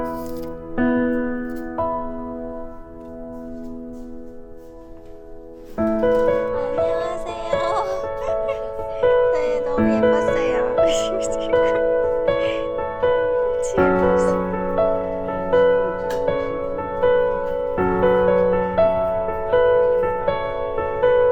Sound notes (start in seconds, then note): 11.2 embarrassing laughter